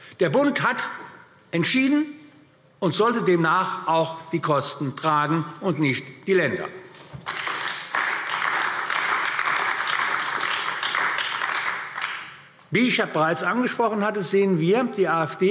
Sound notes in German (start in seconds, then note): 7.1 Beifall AfD